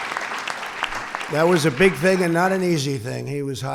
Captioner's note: applause